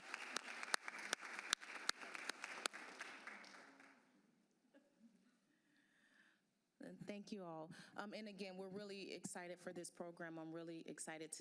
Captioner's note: applause